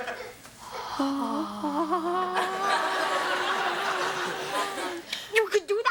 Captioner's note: Ethan and Kevin moan in delight